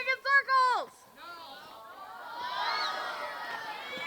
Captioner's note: cheering